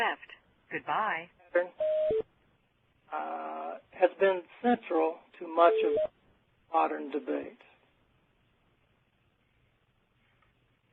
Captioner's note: automated voice